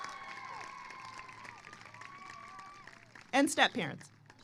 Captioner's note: applause